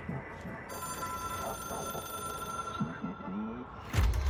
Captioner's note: phone rings